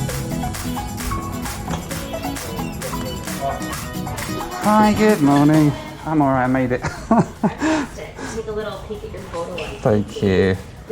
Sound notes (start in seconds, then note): 6.4 laughs